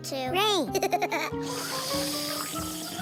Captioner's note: giggling; slurping sounds